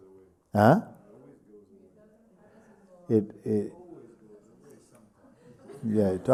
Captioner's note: voices in group